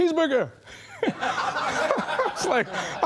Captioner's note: laughing